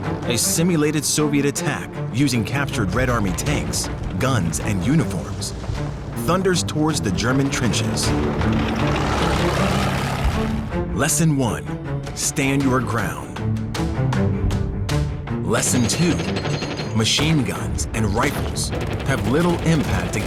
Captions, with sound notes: A simulated Soviet attack, using captured Red Army tanks, guns, and uniforms, thunders towards the German trenches. (dramatic music) (tank rumbling) Lesson one, stand your ground. Lesson two, machine guns and rifles have little impact